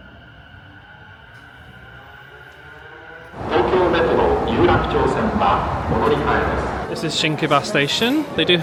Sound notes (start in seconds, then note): 1.6 train whirring